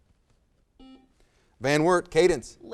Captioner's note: buzzer